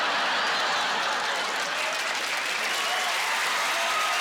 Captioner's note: laughing